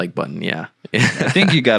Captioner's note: laughing